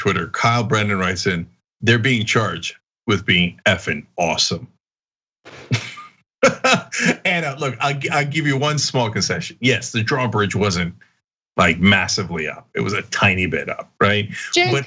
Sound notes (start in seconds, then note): 6.4 laugh